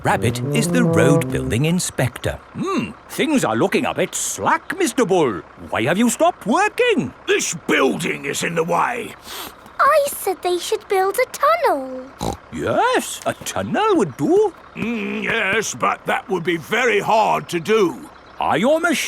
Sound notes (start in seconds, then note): 9.2 sniffs; 12.1 snorts